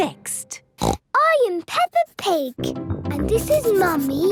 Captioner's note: snorts